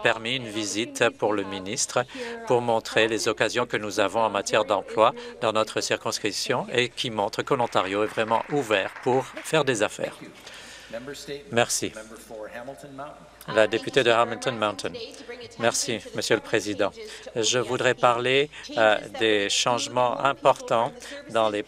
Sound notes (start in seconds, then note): 10.4 some Applause